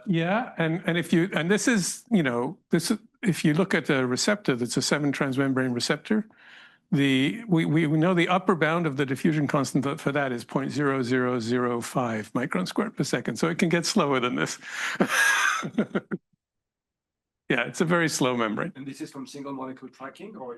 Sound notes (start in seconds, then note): 14.8 laughs